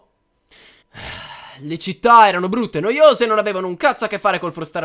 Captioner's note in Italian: sospiro